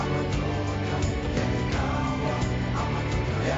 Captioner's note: none